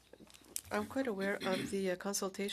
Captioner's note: speaking French